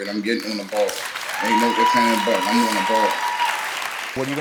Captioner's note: audience cheering